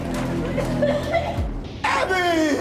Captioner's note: Abby gags